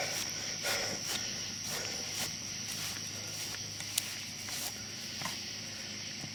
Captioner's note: heavy breathing; grass crunching